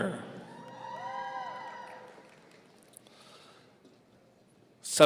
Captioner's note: audience cheering